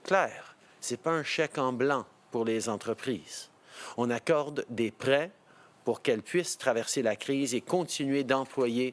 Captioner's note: speaking French